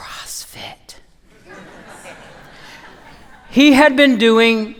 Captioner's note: laughter